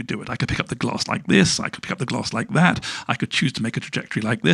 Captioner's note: none